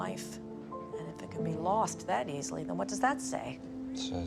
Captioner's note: voiceover